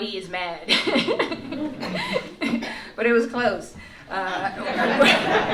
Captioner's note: laughs; laughter